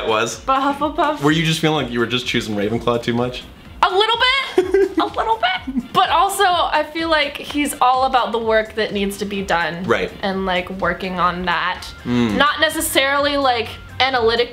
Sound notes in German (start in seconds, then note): 4.3 lacht